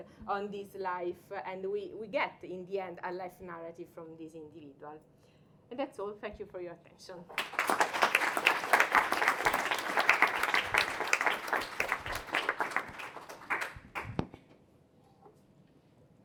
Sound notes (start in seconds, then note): 7.3 applause